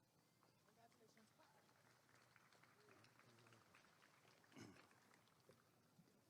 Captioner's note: applause and cheering